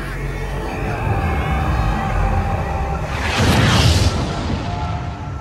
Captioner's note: warp engines engage